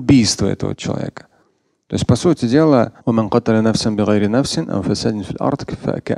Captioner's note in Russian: говорит на арабском